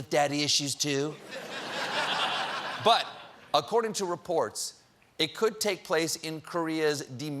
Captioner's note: laughter